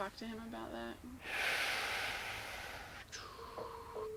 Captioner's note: sighing; clicking tongue